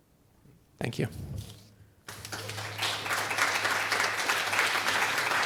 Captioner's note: applause